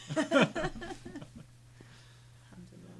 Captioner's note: group laughing; chuckles